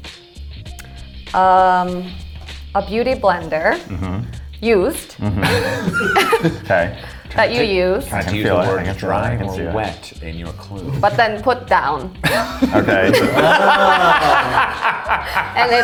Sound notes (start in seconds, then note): 5.1 all chuckling; 12.5 all laughing